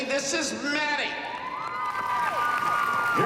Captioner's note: cheering